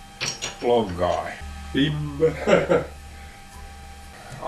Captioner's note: long drill vibrating